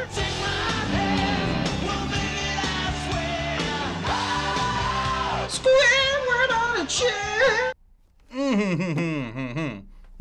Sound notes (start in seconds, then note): 5.5 nasally voice